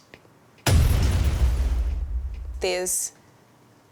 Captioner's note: metal thudding; metal clanging